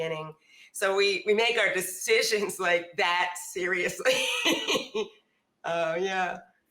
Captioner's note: laughs